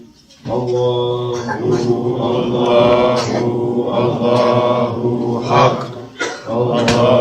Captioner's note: group chanting